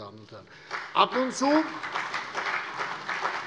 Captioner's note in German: Beifall CDU und BÜNDNIS 90/DIE GRÜNEN